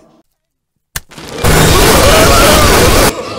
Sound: Loud Noises, Tigger Screaming

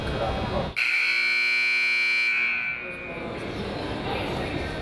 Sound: buzzer honks

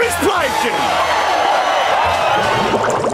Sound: cheering

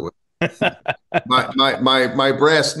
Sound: chuckles

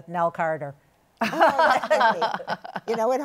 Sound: laughter

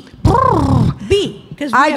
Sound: babbling

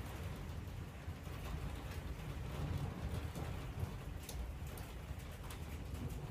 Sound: hail gets heavier; roll of thunder with rain and hail

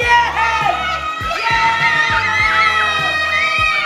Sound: cheering

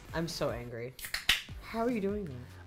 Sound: can clicks

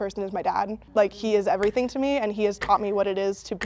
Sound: clock begins ticking

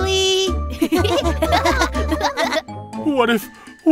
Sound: laughter

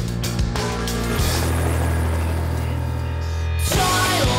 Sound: helicopter flying

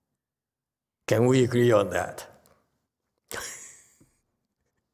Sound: chuckles

